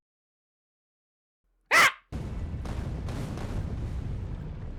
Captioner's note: screams